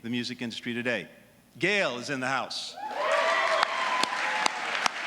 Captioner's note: applause